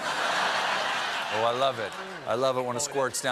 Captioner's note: laughter